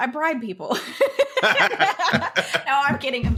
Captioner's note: both laughing